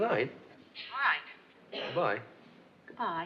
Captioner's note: on phone